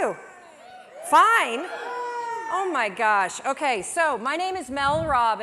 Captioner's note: audience cheering